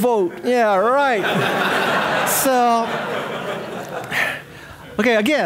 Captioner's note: audience laughing